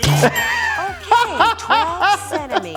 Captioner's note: laughing